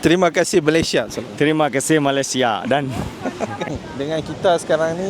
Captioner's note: laugh